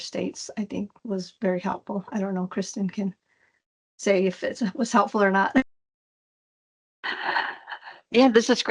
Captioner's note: laughs